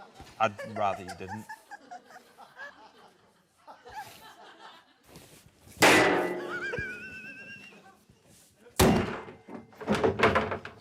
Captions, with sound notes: I'd rather you didn't. (BANG!) (THUMP!)